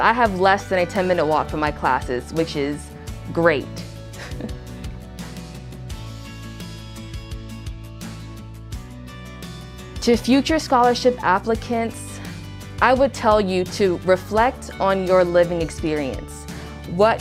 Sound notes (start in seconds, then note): 4.0 bright acoustic guitar music continues; 4.1 chuckles